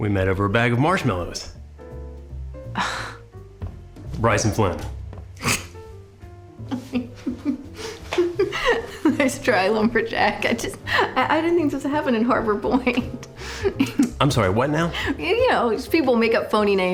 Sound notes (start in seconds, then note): 2.7 sighs; 6.7 drucinda laughing